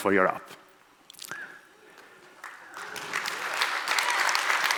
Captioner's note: audience applauds